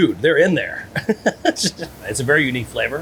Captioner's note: chuckling